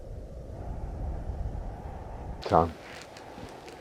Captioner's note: wind humming